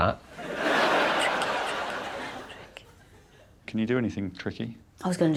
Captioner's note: whispers